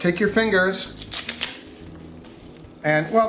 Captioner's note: kale snapping